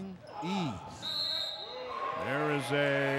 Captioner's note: whistle blows; cheering